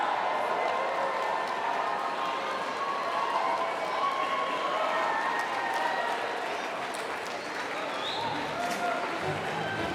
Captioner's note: applause